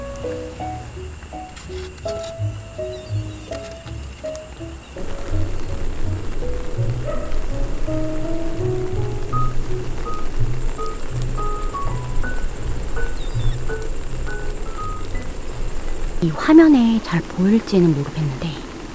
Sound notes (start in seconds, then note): 5.6 sound of falling rain